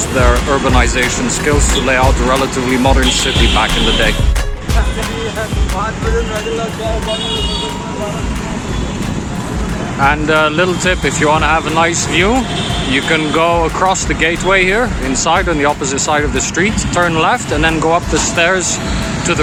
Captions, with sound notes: used their urbanization skills to lay out a relatively modern city. Back in the day [back ground chatter from other people] and a little tip. If you want to have a nice view, you can go across the gateway here inside, on the opposite side of the streets, turn left and then go up the stairs.